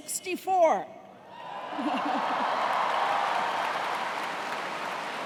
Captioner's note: cheers and applause